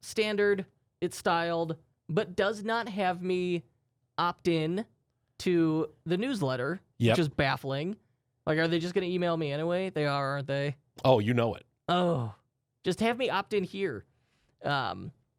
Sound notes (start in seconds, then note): 12.1 softly groans